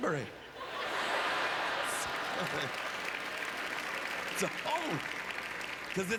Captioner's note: audience laughter